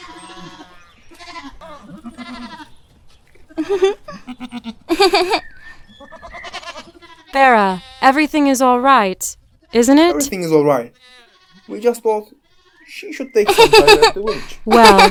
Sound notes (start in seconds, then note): 0.0 cattle mooing; 4.2 goats and sheep bleating; 4.8 Acela giggling; 13.4 Acela giggling